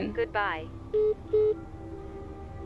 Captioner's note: call ends